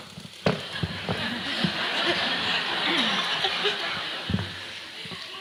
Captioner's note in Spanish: Risas